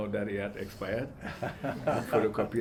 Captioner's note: all laugh